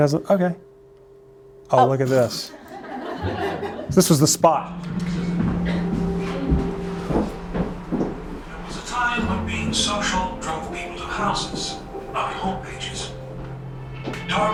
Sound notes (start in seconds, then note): 2.4 laughter; 5.1 wistful music